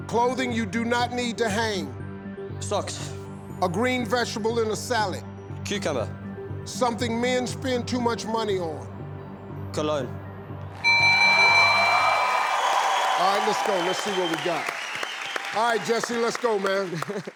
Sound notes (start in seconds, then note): 10.8 bell dinging; 10.8 audience cheering